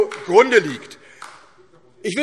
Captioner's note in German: Beifall DIE LINKE und SPD